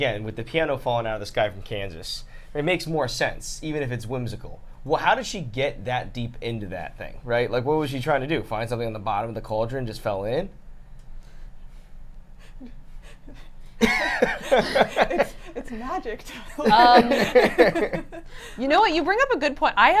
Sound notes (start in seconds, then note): 13.8 laughs